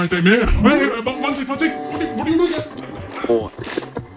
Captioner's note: sounds of struggle